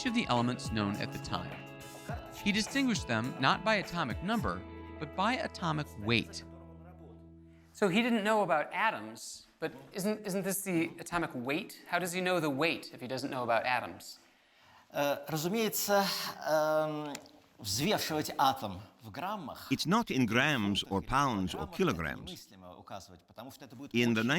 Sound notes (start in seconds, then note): 15.1 speaking Russian